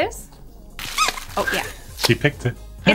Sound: squeaking

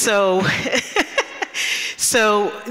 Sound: chuckles

